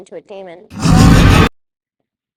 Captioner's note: demon roar